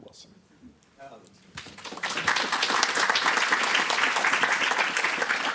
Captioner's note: applause